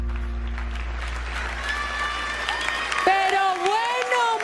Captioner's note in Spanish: aplausos